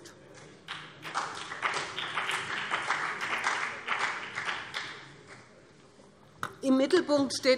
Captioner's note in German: Beifall BÜNDNIS 90/DIE GRÜNEN